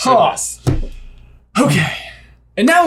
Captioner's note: sighs